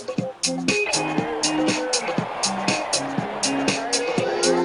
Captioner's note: cheering